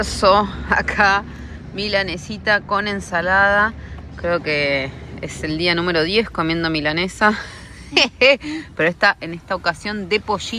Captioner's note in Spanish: risas